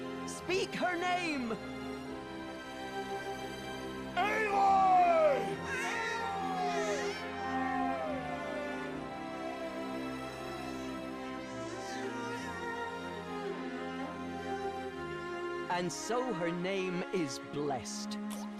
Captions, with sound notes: Speak her name! ALOY! [echo: "Aloy! Aloy!"] And so her name is blessed.